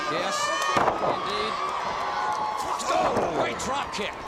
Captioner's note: crowd cheering